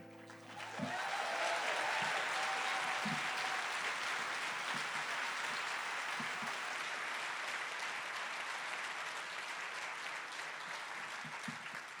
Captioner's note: cheers and applause